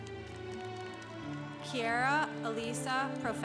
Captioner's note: congregation applauding